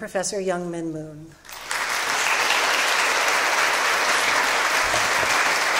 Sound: applause

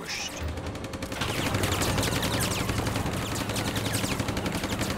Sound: rapid gunfire exploding

